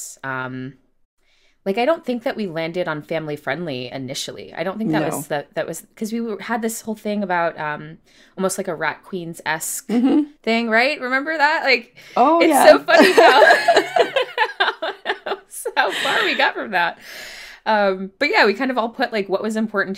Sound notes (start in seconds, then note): 12.9 laughter